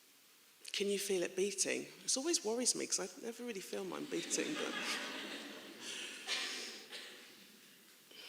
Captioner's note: laughing